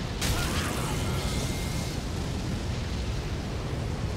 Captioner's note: flames crackling; character screams